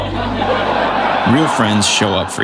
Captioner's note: audience laughs